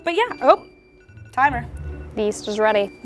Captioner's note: timer beeps